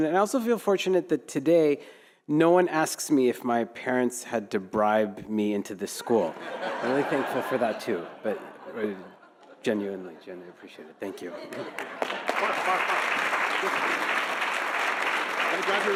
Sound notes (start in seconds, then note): 6.4 audience laughing; 11.4 audience applauding